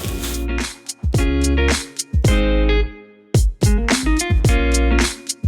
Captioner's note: cooking sounds